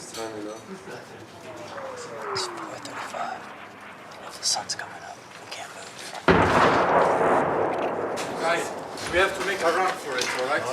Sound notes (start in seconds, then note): 0.1 team whispering; 1.2 airplane engine roaring; 6.2 bomb exploding